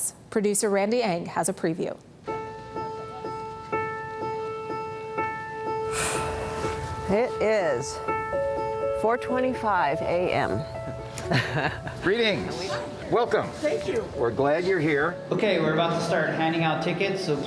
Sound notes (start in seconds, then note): 11.2 laughs